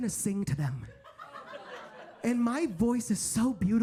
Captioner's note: audience laughs